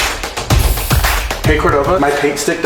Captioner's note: energetic music; spray paint can spraying